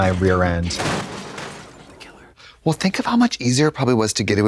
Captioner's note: monitor crashes